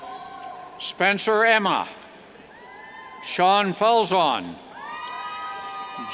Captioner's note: cheers